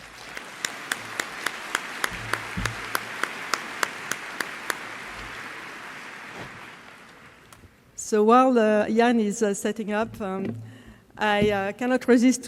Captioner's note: applause